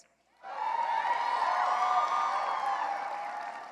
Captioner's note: cheering and applause